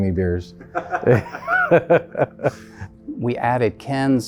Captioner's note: both laughing